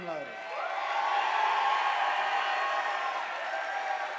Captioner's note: audience applauding